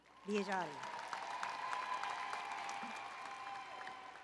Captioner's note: applause and Cheering